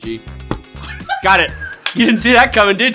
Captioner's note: forehead thuds; clapper clicks